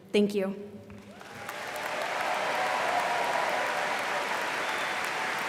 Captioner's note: students applauding